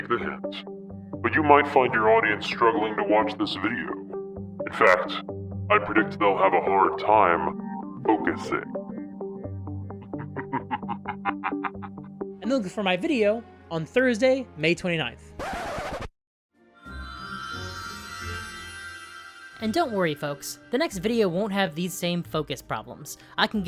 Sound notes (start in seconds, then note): 9.9 evil laugh; 15.4 record scratch